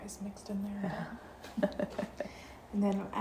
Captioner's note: chuckling